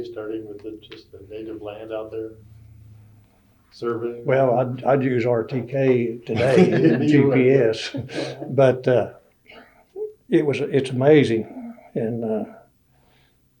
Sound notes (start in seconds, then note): 6.3 laughter